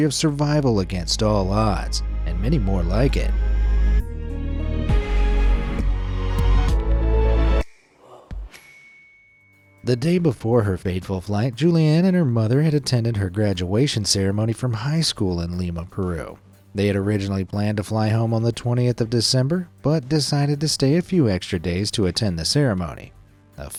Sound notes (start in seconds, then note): 3.6 bright music; 8.5 bell dings